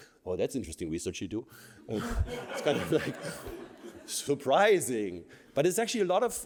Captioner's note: laughter